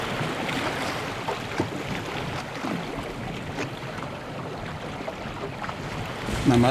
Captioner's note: water rippling